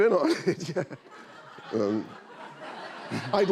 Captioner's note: laughter